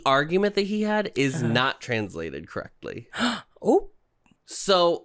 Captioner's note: gasp